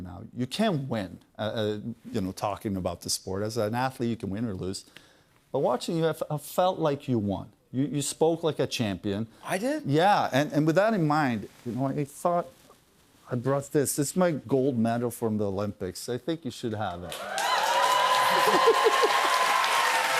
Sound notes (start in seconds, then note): 17.0 cheers and applause; 18.2 laughs